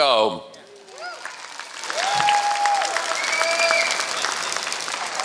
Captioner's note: applause